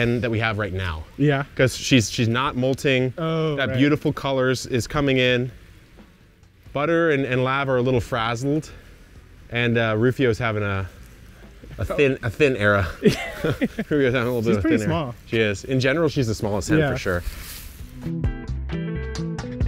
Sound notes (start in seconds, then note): 12.8 chuckles; 17.9 upbeat music